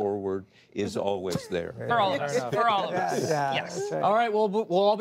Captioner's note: laughter